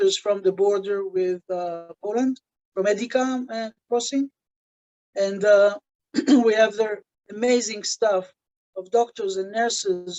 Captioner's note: clears throat